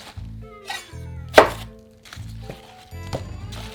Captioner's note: knife chopping